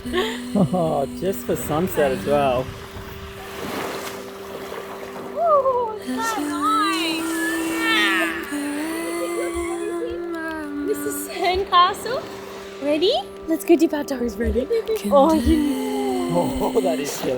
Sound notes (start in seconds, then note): 3.1 waves splashing; 7.8 cooing